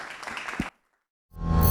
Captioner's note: class applauding